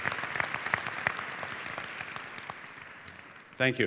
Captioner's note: applause